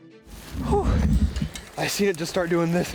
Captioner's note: panting